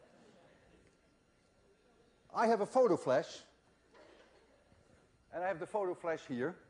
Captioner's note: laughter